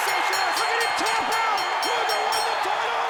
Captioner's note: bell ringing